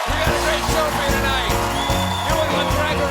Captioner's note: cheers and applause